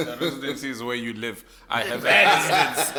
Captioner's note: everybody laughs